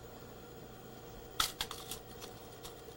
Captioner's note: rattling of fabric pins